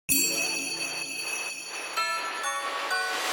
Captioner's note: bell chimes; upbeat music